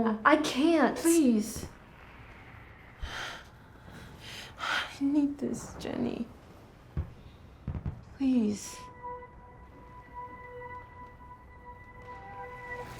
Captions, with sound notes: - No, I can't. - Please. (Wumni sighs) I need this, Jenny. Please. (ominous music)